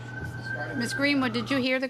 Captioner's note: sirens